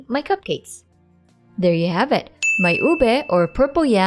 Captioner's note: timer dings